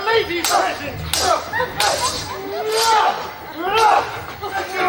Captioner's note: swords clash